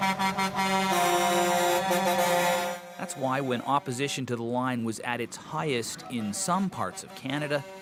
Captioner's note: horns honking